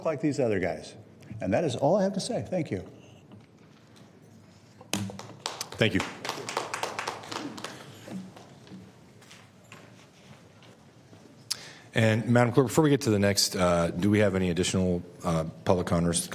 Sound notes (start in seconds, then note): 8.5 applause